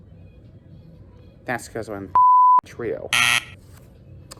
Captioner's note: buzzer sounds